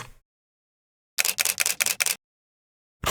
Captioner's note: camera clicking